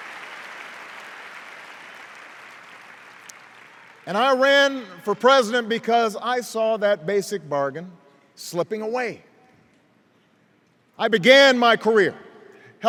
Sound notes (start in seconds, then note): 0.0 cheers and applause